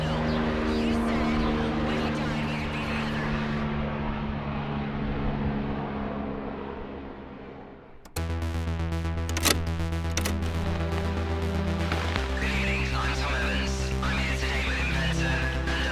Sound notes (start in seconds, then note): 8.3 brooding synth music; 9.2 switch clicks